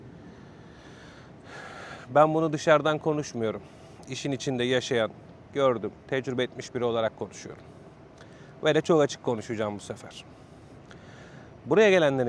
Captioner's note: sighs